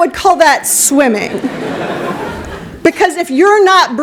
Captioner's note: laughter